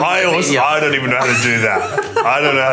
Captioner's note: laughter